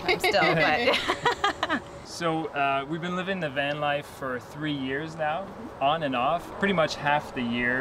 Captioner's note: laughter